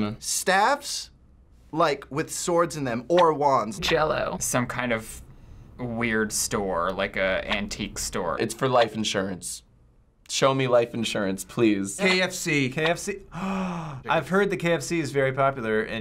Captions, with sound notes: - Staffs with swords in them. Or wands. - Jell-O. - Some kind of weird store, like an antique store. - It's for life insurance. Show me life insurance, please. - KFC. - KFC-- (gasping) I've heard that KFC's very popular in Japan.